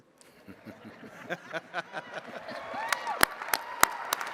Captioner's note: attendees laughing; attendees cheering and clapping